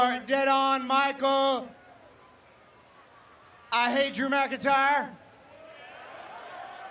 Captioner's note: laughter